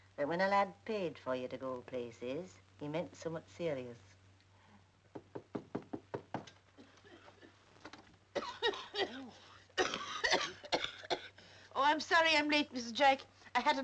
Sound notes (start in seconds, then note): 5.1 door knocks